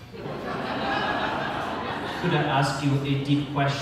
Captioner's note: audience laughter